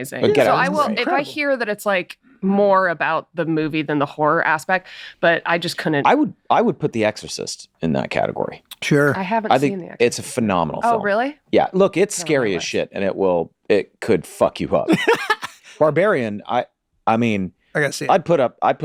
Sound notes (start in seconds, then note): 14.9 Charlie laughs